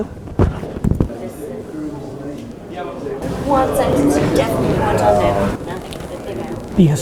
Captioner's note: woman drowned out by crowd chatting